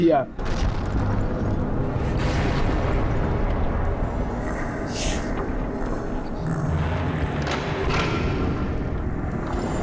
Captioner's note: distant explosions, evil laughter, and whirring machinery